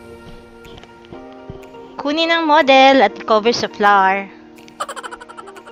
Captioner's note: laughing